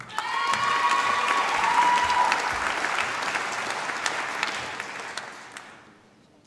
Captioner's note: applause